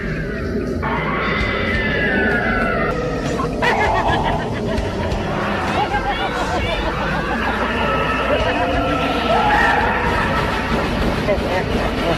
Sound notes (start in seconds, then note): 2.6 screaming